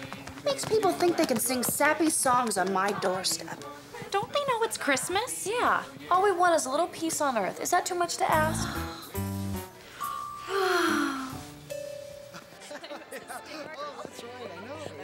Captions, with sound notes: What makes people think they can sing sappy songs on my doorstep? Don't they know it's Christmas? Yeah, all we want is a little peace on earth. -Is that too much to ask? -[scoffs] [both sigh heavily] [people chatting]